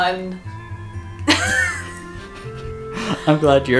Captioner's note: laughter